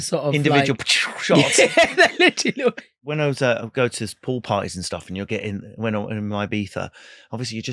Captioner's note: laughing